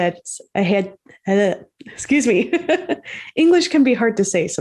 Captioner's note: laughs